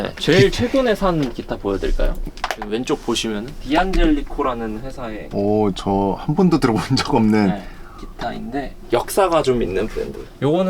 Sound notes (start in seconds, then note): 5.1 laughs